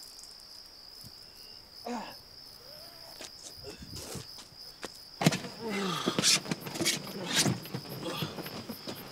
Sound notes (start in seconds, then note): 5.2 door slamming; 5.5 sighing and grunting